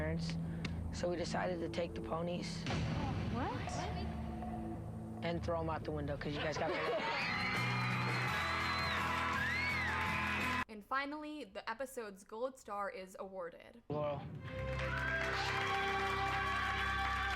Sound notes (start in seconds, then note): 6.7 cheering; 14.4 applause